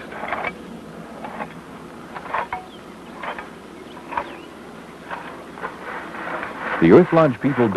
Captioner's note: digging and scraping sounds